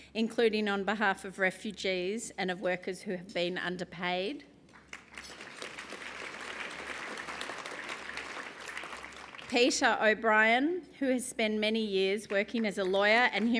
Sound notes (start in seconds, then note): 4.7 applause